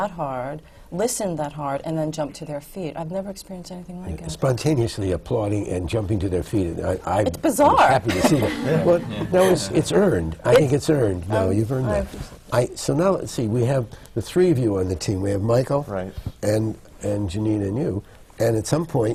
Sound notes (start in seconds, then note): 7.8 laughs